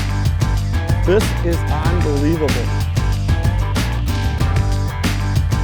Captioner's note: voiceover